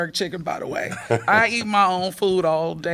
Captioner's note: laughter